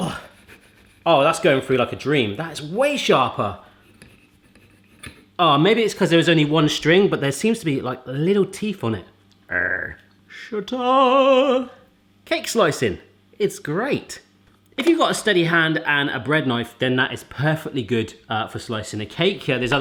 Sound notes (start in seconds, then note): 9.5 growls; 10.5 singing